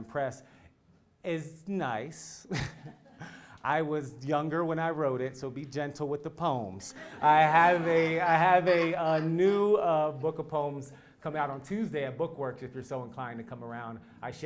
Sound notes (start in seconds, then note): 2.5 laugh; 6.9 laugh